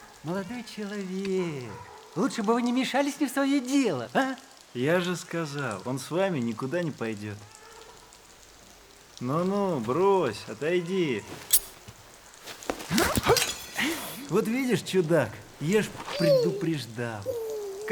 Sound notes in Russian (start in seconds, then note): 12.4 удар, звон ножа, стон